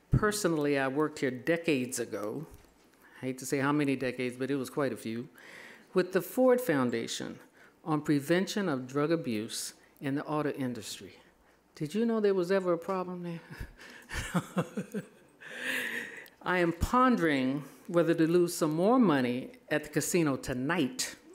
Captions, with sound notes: Personally I worked here decades ago. I hate to say how many decades, but it was quite a few, with the Ford Foundation on prevention of drug abuse in the auto industry. Did you know there was ever a problem there? (laughing) I am pondering whether to lose some more money at the casino tonight